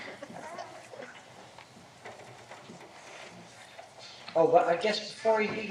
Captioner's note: laughter